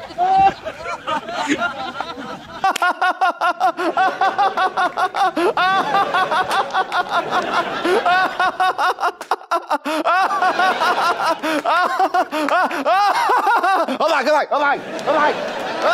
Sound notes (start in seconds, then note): 2.5 frantically laughing